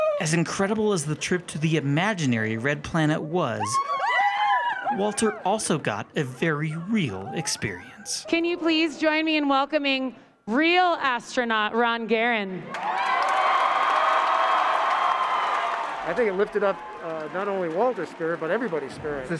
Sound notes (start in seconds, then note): 15.2 cheer